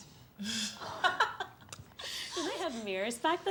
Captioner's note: laughs; girls laugh